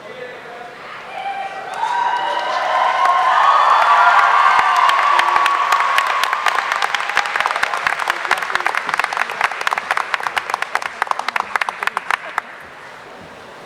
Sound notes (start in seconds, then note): 1.9 audience applauding; 1.9 audience cheering